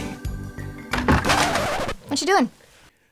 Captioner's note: needle scratch